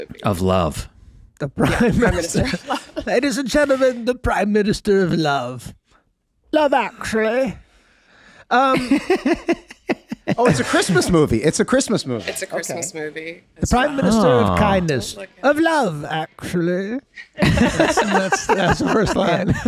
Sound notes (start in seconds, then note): 8.7 Glenn laughing; 17.4 everyone laughing